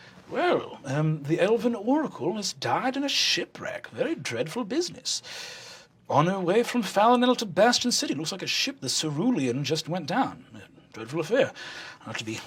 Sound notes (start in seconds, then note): none